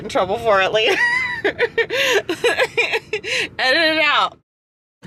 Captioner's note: laughs